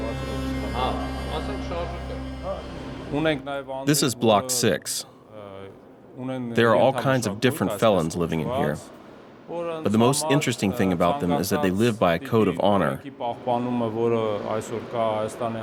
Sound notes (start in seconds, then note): 2.2 voiceover